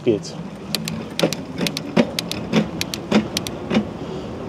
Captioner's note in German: Motor startet